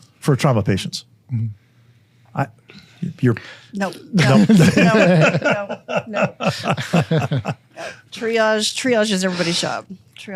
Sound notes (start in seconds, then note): 4.1 all laughing